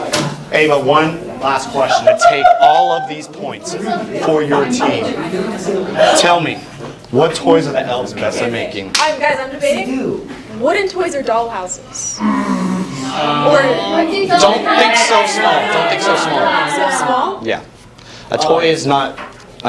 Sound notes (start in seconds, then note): 0.1 slam; 2.0 laughs maniacally; 11.8 lots of ums